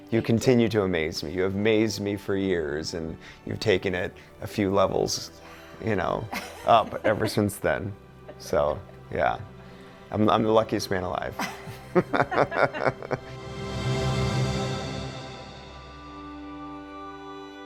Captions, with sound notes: You continue to amaze me. You have amazed me for years and you've taken it a few levels up ever since then. So yeah. I'm the luckiest man alive. (couple laughs) (uplifting music)